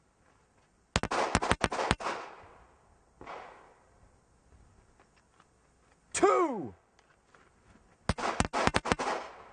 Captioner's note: gunshots